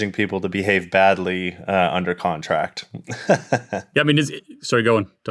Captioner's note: laughs